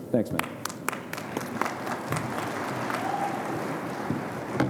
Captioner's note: audience applauding